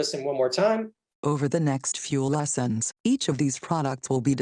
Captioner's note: female Computer Voice